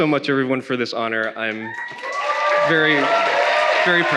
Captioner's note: attendees cheering